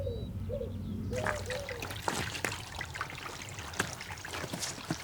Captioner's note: water trickling